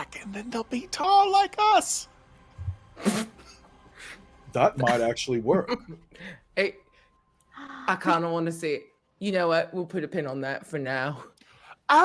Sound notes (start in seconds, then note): 3.1 laughs